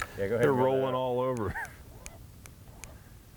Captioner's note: chuckles